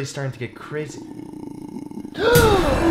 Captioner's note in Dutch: laag gegrol